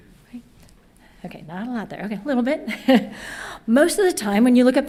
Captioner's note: laughs